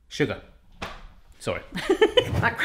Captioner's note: laughs